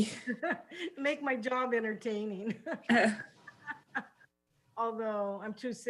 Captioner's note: laughs